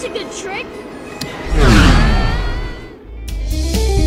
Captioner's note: uaaaaaaaaahhhh!